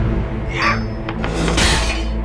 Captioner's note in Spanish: clang